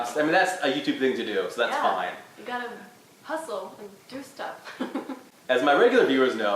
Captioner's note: laughs